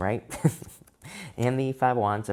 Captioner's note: chuckles